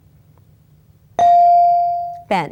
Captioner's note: bell dings